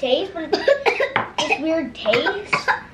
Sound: coughs

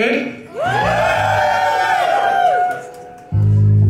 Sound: audience woos

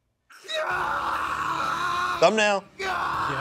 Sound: screams; intense music

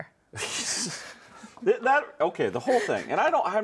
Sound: laughs

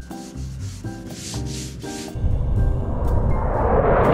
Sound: soft music; broom rustles

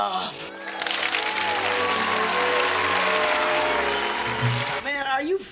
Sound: audience applauding, cheering

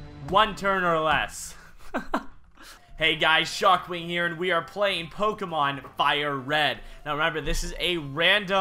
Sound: laugh

